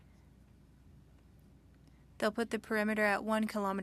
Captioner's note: speaking French